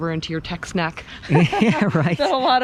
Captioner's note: laughs